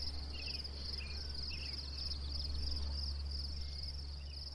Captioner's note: birds chirping